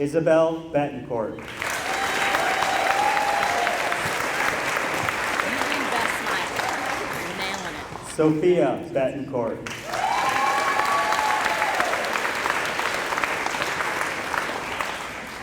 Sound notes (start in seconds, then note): 1.4 applause; 9.6 applause